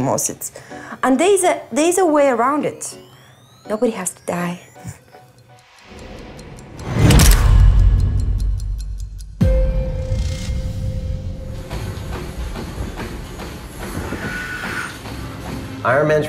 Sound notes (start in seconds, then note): 5.9 clock ticking; 6.8 boom resounds; 10.0 dramatic music; 10.0 treadmill thrumming